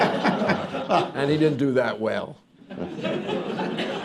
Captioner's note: laughter